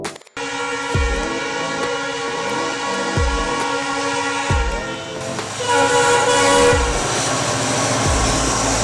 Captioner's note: train horn